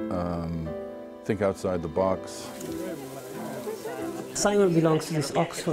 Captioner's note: people chattering